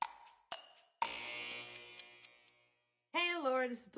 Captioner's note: upbeat clock ticking; fading alarm